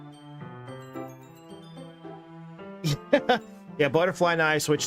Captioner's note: laughing